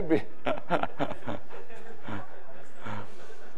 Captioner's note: audience laughs